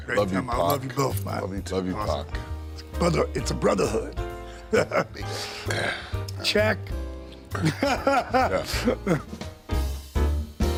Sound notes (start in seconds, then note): 4.6 laughs; 7.5 DDP laughs